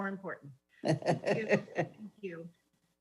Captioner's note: laughs